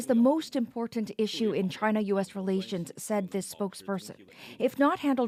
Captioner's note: speaking alternate language